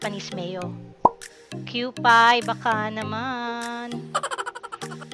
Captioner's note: laughing